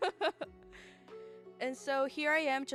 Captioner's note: laughs